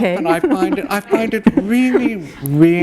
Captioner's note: laughter